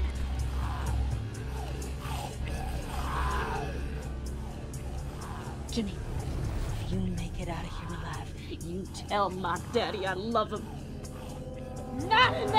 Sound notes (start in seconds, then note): 0.0 zombies growling